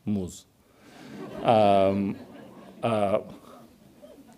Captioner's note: audience laughs